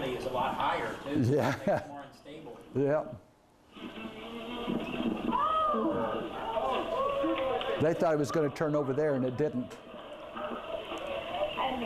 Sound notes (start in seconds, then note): 5.4 shouting